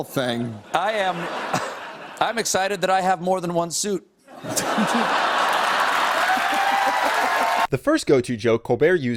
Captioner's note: audience laughs and cheers